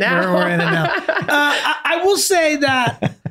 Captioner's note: laughing; Glenn laughing